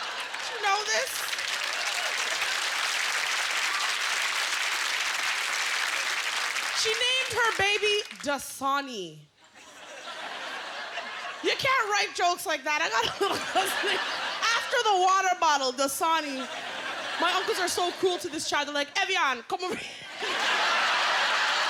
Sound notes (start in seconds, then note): 0.0 applause; 7.2 laughter; 21.1 laughter